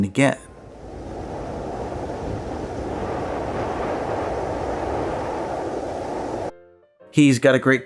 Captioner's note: wind blowing